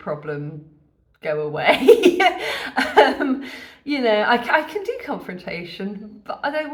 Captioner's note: laughing